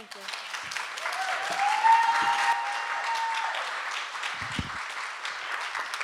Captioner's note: audience cheering and applauding